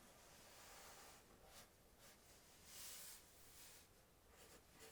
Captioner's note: pencil scratching